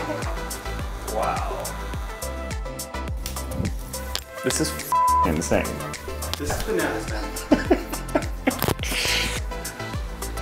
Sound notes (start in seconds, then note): 6.5 chuckling